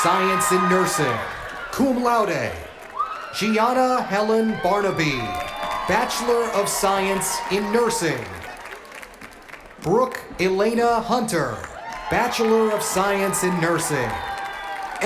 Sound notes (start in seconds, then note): 1.8 cheers and applause